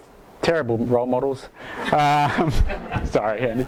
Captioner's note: laughs